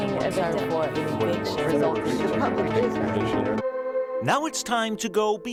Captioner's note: crowd mumbling